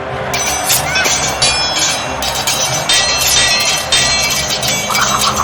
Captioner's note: Xu Xang shouting; swords clanging; all shouting; wind whooshing